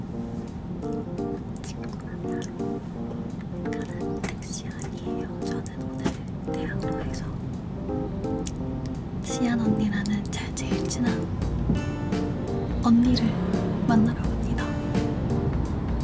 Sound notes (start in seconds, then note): 1.7 whispers